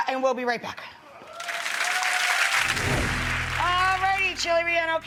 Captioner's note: audience clapping